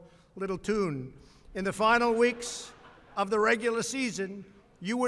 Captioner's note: laughter